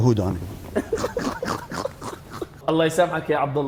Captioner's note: laughs